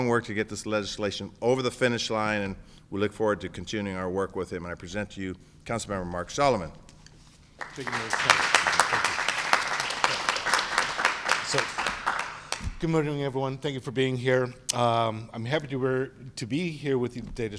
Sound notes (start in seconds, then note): 7.5 applause